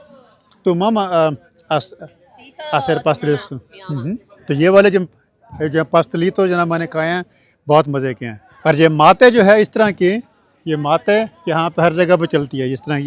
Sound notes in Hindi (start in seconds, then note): 0.7 स्पेनिश में बोलते हुए